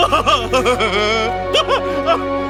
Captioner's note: laughing